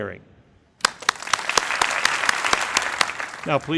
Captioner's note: crowd applauding